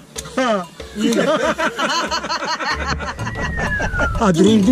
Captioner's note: laughs